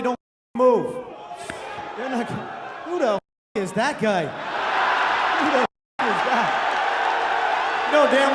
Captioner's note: audience cheers